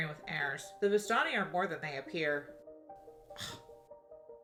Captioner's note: scoffs